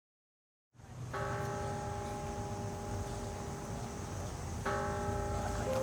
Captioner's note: bell tolling